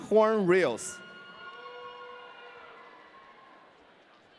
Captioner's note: audience cheering